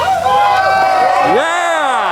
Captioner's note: cheering